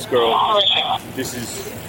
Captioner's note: radio chatter